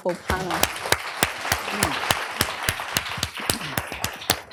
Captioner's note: applause